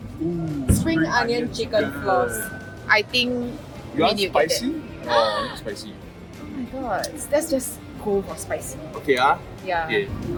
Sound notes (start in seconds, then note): 5.2 gasps